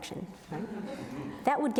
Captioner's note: audience chuckles